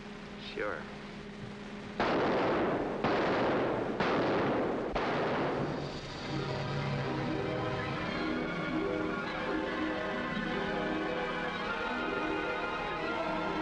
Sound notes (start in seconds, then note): 2.0 gun firing; 5.0 dramatic music; 10.6 mystical music